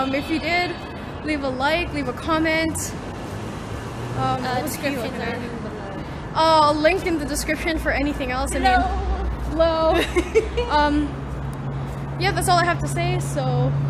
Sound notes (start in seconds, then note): 9.9 laughing